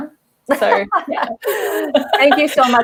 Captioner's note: laughter